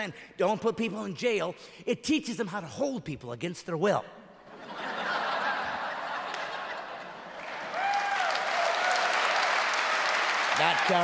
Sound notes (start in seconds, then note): 5.5 clapping and cheering